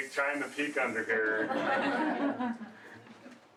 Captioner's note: laughter